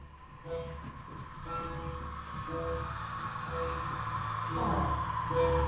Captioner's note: footsteps shuffling; tone beeping